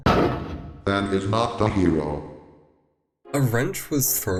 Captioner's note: text to speech